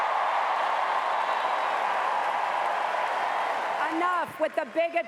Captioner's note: cheers and applause